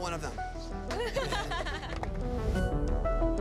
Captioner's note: laughs